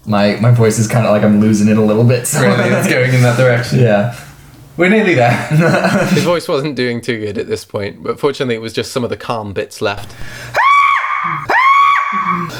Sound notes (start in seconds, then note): 5.3 laughs